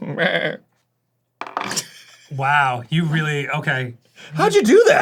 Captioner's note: arin laughing